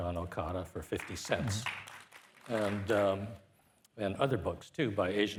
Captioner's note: participants applauding